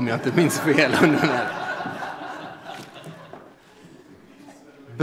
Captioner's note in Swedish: Skratt